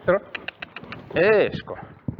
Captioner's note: cluck